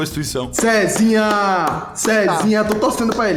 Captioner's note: clapping